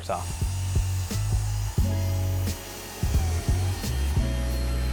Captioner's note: miter saw running; gentle music